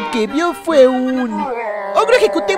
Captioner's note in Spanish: gruñidos